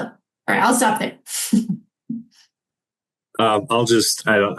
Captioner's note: chuckling